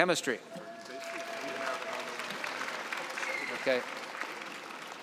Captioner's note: cheering and applause